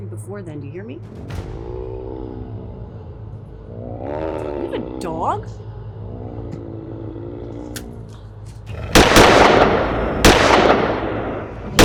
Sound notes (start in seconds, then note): 1.2 werewolf growling; 8.8 gun firing